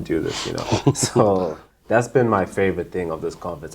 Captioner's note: chuckles